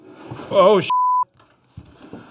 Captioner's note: beep